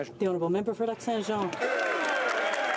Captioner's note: applause